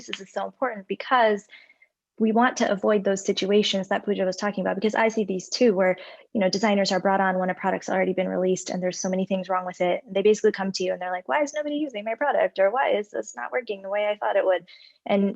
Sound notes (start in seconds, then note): none